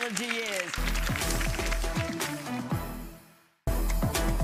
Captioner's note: applause